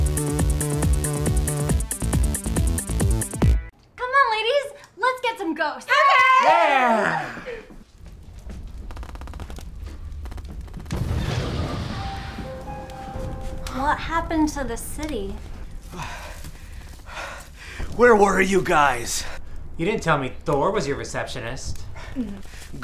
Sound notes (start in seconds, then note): 0.0 upbeat music; 9.0 gunfire popping; 9.6 explosion booms; 10.9 eerie music; 16.6 panting